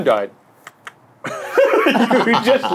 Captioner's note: tapping noise; all laughing